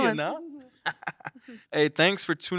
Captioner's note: chuckles